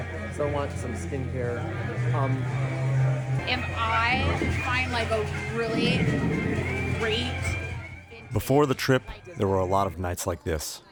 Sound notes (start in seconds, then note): 6.4 dialogue fades